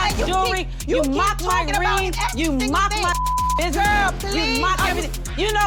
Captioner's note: beep